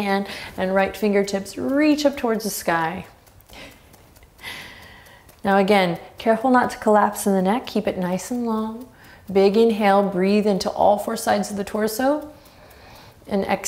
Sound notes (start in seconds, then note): 3.5 chuckles; 12.5 inhaling deeply